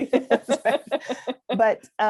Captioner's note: laughter